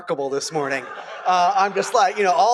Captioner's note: laughter